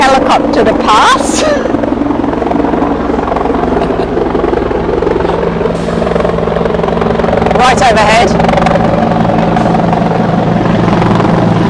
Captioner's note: helicopter noise